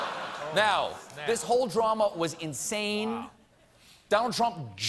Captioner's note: laughter